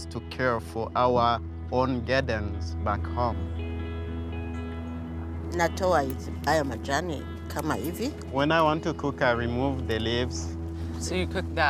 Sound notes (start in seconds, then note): 5.1 speaks in foreign language